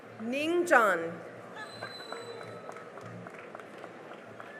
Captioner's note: cheering and applause